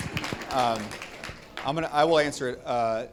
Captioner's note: audience applauding